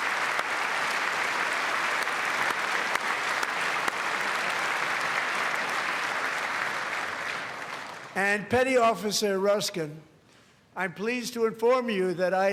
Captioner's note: applause; cheers; applause